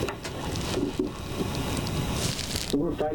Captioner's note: recording playing in the background